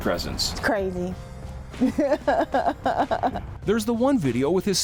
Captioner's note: laughing